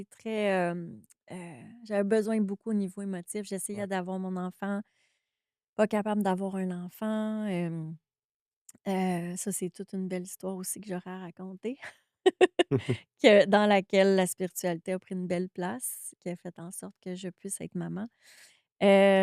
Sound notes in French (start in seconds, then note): 12.4 rires